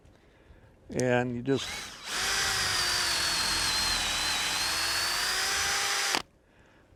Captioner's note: drill whirring